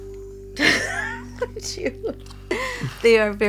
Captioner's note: laughs